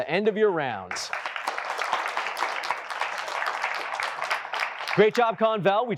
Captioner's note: applause